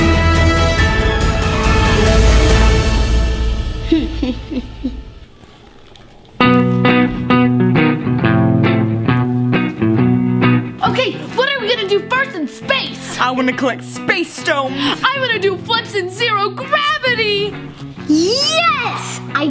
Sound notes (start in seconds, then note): 3.8 quiet laughing; 6.4 steady rock music